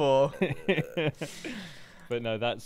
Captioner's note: laughs